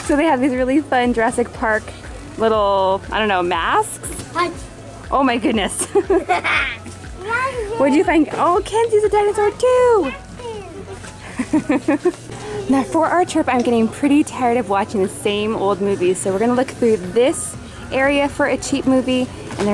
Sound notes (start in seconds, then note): 5.7 chuckles; 5.8 boy in mask laughs; 11.1 laughs